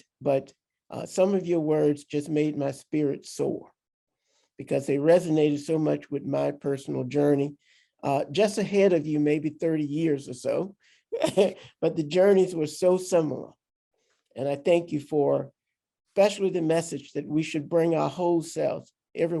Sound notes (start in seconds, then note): 11.2 laughs